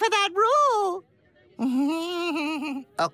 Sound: nervous laughter

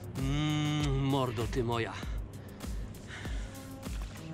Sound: kiss

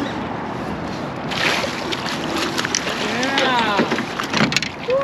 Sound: water lapping

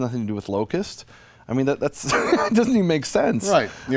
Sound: laughs

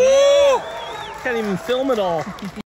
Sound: crowd

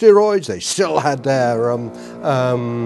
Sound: buzzing

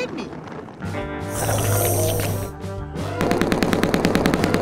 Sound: sucking noise; shooting

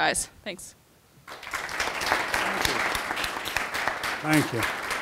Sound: audience applauding

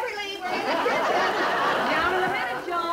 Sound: audience Laughing

